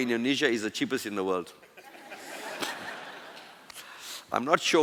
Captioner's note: laughter